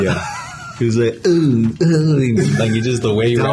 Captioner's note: imitating drunk